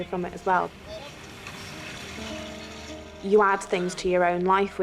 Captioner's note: water whooshing